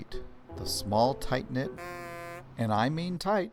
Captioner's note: sound: car horn